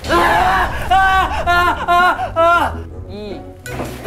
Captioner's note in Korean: 비명